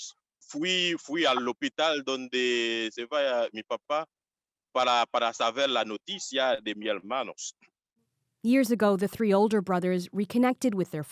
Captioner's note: speaking Foreign Language